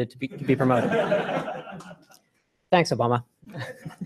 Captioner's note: laughter